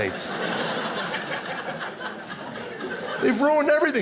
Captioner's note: audience laughing